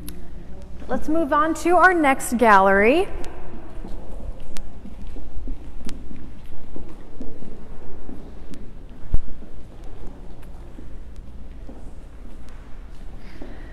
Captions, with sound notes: Let's move on to our next gallery. (footsteps)